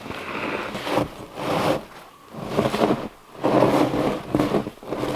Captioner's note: log scraping